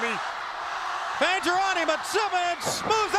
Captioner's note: crowd cheering